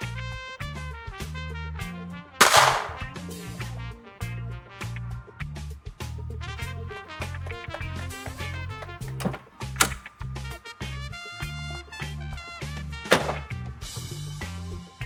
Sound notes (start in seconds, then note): 0.5 funky music; 2.4 gunshot